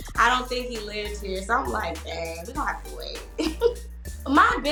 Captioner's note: chuckles